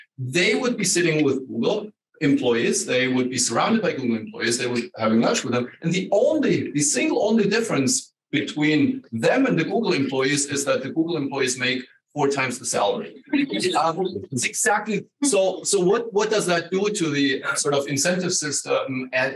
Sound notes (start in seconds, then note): 13.5 all laughing